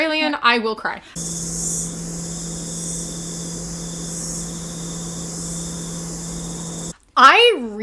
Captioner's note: cicada noises